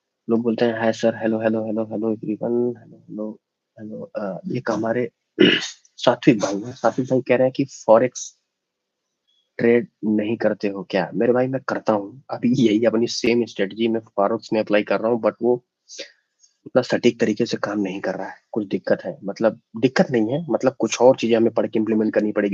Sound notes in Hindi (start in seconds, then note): 5.4 गला साफ़ करने की आवाज़